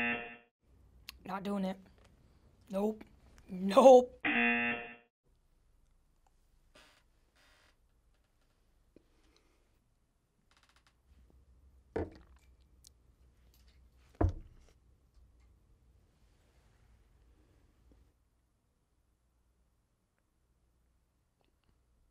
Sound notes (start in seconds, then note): 0.0 buzzer; 4.2 buzzer; 5.3 silence